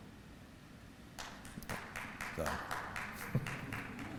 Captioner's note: applause